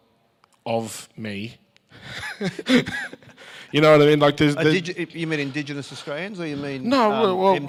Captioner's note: both laugh